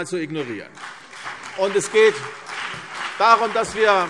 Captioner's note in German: Beifall CDU und BÜNDNIS 90/DIE GRÜNEN - Zurufe SPD